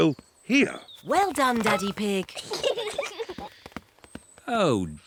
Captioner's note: peppa and george giggle